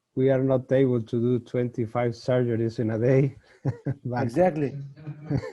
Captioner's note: chuckles